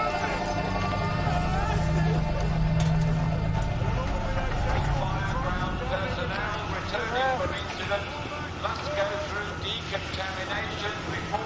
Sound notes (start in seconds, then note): 4.2 man over speaker